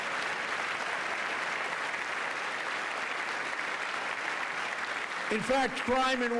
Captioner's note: applause